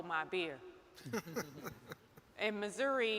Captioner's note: Chokwe chuckles